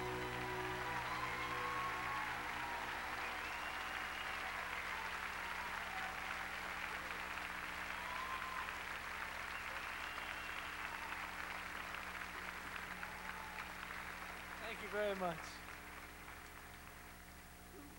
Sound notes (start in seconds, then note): 1.6 crowd cheering